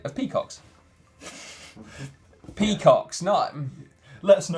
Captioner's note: laughing